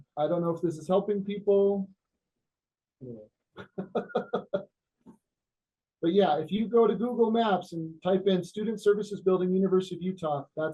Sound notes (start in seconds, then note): 3.6 laughs